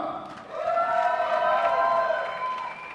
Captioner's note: applause